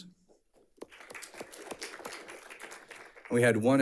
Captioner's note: audience applauds